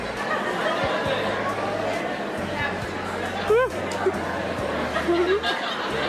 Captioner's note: ambient chatter continues; laughter